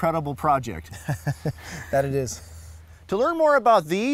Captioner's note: laughter